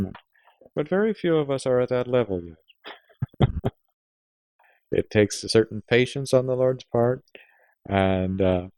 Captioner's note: laughs